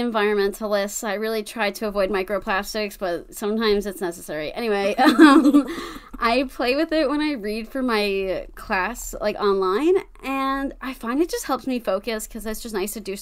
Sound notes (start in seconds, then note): 5.0 laughs